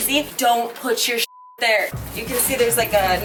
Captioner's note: beep